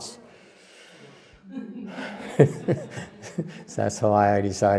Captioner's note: laughter